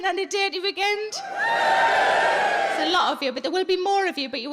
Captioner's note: audience cheers